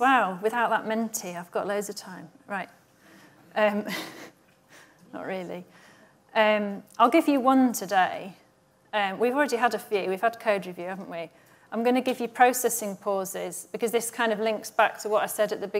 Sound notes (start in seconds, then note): 3.8 chuckles